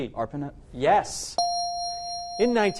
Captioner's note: correct answer chime